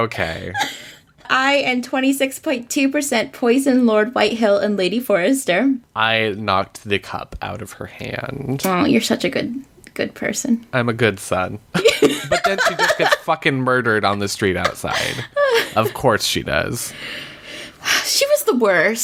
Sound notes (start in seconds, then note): 11.8 laughs; 18.3 sighs